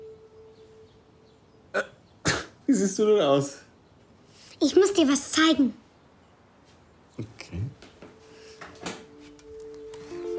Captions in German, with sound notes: Äh, wie siehst du denn aus? Ich muss dir was zeigen. (leise) Okay.